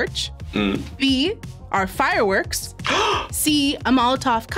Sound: gasps

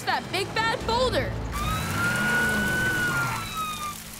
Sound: sirens wailing

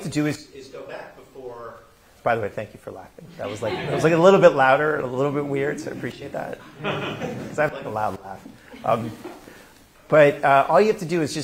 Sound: laughter

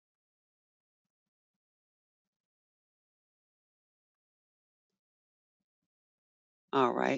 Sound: 5 seconds pause

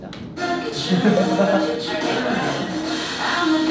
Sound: laughing in embarrassment

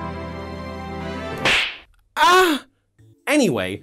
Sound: pop; slap

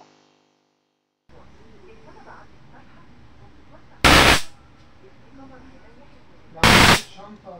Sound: Screech

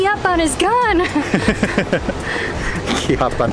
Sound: both laughing

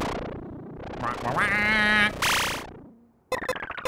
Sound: digital noise; commanding squawk

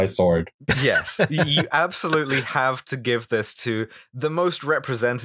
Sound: laughter

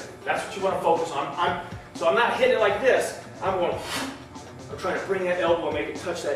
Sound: exhale

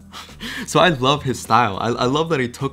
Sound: laughs

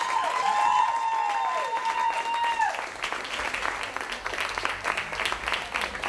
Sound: cheers & applause

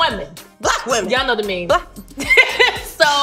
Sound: laughs

